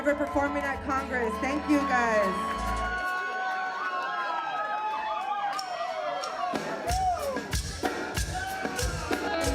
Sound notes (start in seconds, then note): 2.5 audience cheering; 6.1 cumbia music